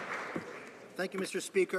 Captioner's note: applause